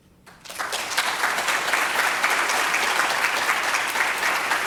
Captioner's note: audience applauding